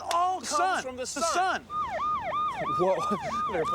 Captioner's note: police siren wailing